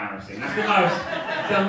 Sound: audience laughing

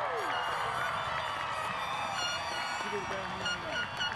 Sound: audience cheers and applauds; airhorns sound

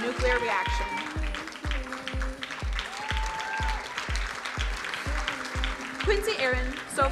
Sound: crowd cheering drowns out singer

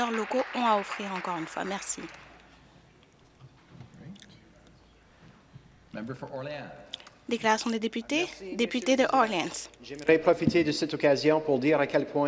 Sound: some Applause

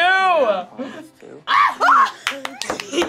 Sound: both scream; both laugh

